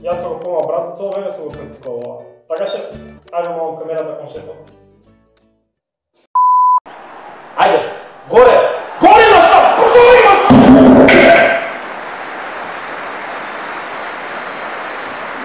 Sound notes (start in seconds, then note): 6.9 yells at the game